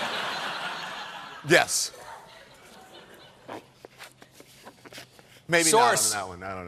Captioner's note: laughter